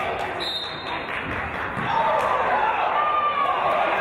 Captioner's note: referee's whistle